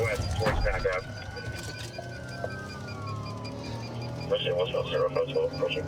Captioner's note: sirens wailing